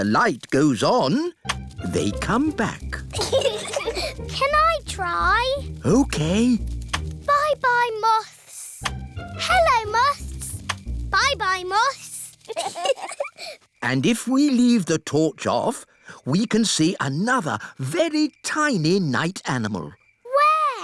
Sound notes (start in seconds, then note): 3.1 peppa and george giggle; 12.4 both giggle